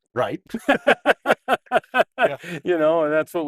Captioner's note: both laugh